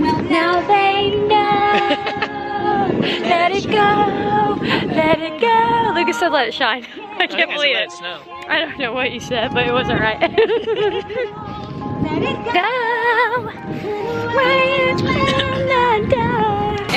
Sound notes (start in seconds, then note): 10.2 giggles